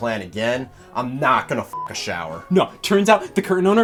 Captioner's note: beep